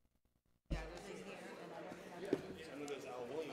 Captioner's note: crowd chatter